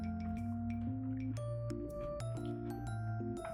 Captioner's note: Crunch